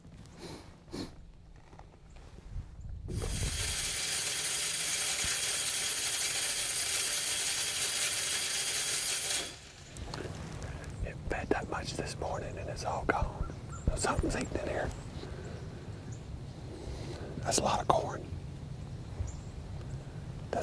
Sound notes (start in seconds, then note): 0.3 sniffing; 3.1 feeder whirring